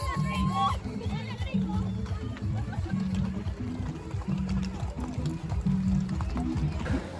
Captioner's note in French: Applaudissements